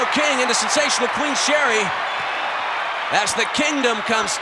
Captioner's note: audience cheering